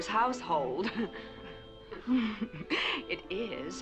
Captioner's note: chuckles